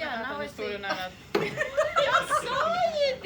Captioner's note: women laugh